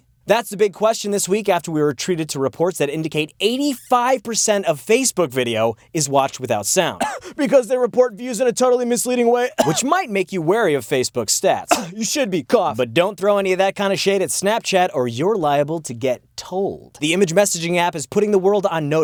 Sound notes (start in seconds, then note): 6.9 cough-cough; 9.5 cough; 11.6 cough